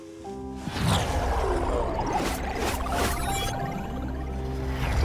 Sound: synthesized whoosh

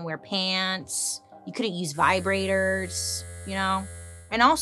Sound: vibrator buzzing

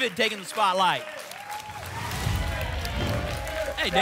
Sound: applause and cheering; whoosh

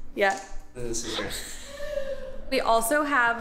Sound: chuckles

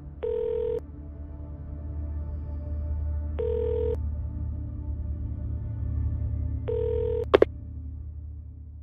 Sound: somber music; phone dial tone

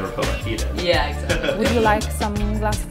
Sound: laughter

